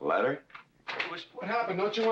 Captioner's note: door opens